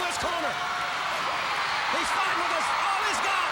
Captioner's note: crowd cheering